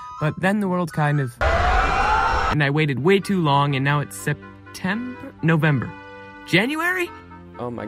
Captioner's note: people screaming, sirens